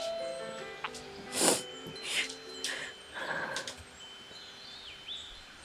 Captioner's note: Sarah sniffles